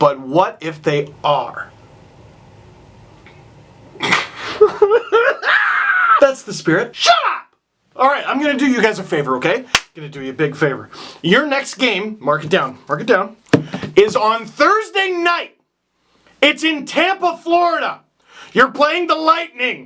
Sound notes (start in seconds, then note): 4.1 sobbing